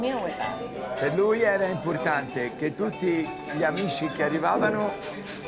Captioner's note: Dario speaking Italian